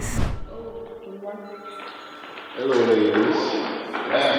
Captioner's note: phone ringing